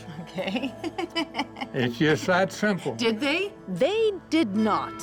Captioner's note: laughs